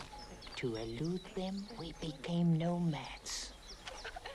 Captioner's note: none